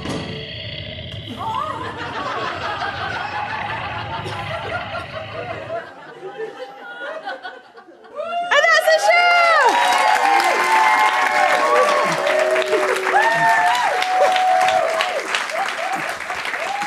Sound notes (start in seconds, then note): 0.2 whippy growls; 10.6 audience claps, whoops, hollers